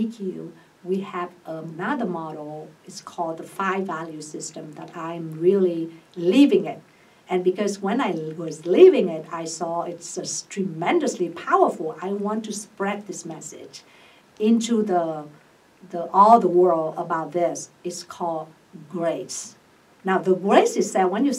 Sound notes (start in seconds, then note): none